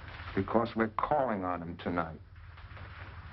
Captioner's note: none